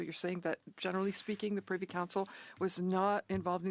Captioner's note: speaking French